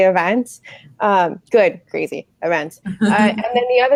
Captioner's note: laughing